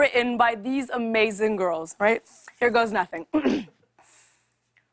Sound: clears throat

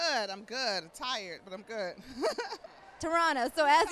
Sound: laughs

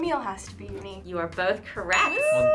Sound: ding

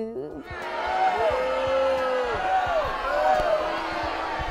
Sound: crowd booing

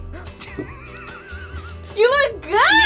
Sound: laughs

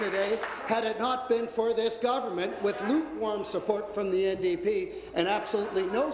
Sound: applause

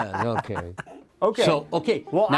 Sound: laughing

